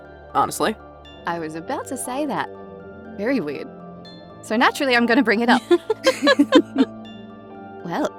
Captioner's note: EVERYONE chuckles